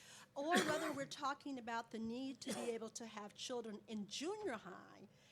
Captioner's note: coughs